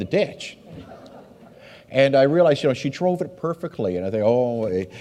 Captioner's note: audience laughs